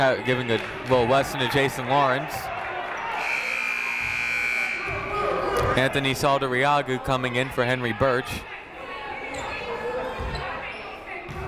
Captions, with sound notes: Larry Dantzler giving a little lesson to Jason Lawrence. (buzzer ringing) Anthony Saldarriaga coming in for Henry Burch. (shouting)